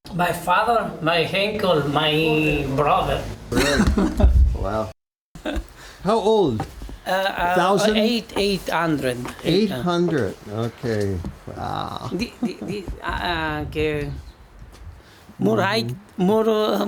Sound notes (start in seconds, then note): 5.5 laughs